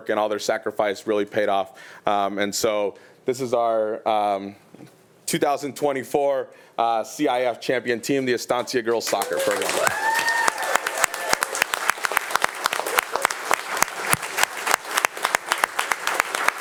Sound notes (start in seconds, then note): 9.9 attendees cheering; 10.9 attendees and board members applauding